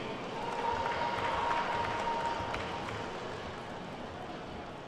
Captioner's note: attendees clapping